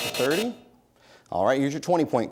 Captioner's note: buzzer sounds